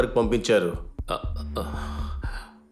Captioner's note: chuckles